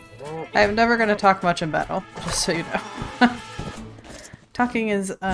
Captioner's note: laughs